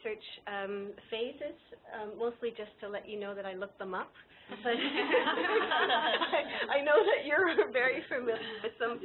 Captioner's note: laughter